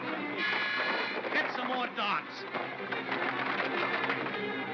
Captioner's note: suspenseful music; darts clatter; suspenseful music